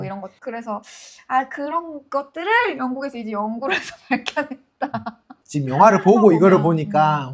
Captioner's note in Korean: 웃음